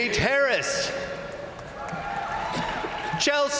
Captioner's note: crowd applauding; crowd cheering